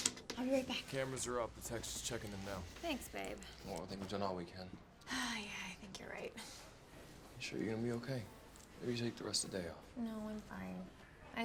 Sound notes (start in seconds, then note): 5.2 sighs